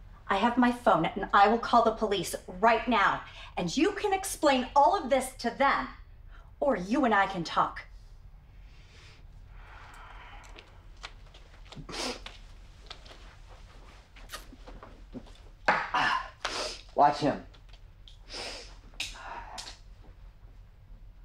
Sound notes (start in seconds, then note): 16.1 Phil gasps